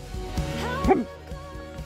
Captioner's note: hiccup-hiccup